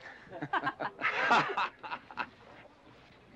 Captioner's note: laughter